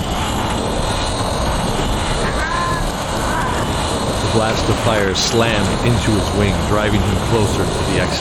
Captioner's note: roar